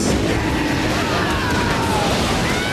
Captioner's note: yelling